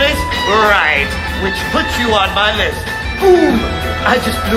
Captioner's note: sighs